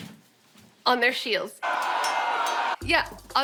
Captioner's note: men yelling, swords clashing